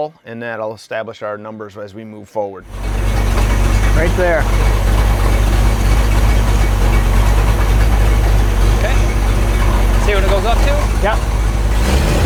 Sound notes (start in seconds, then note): 4.8 engine rumbling; 12.0 engine revving